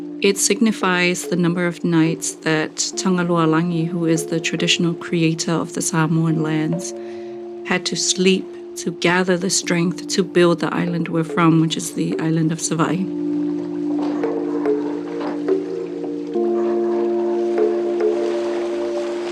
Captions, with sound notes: It signifies the number of nights that Tagaloalagi, who is the traditional creator of the Samoan lands, had to sleep to gather the strength to build the island we're from, which is the island of Savaii. (upbeat ambient music) (water lapping continues)